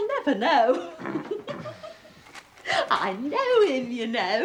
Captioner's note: giggles